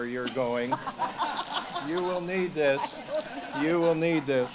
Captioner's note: audience laughs